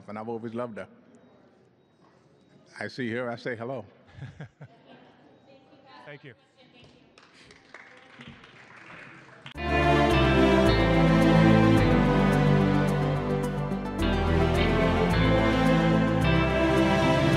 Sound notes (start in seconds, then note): 4.1 laughs; 7.0 applause